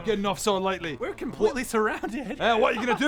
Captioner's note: hysterical giggle